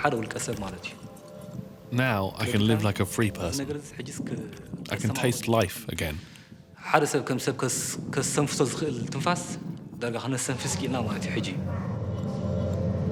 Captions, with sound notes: Now, I can live like a free person. I can taste life again. [Tigrinya spoken audio]